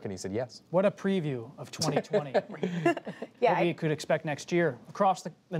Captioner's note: laughter